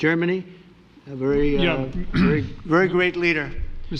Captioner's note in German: räuspert sich